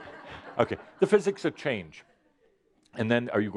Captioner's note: some laughter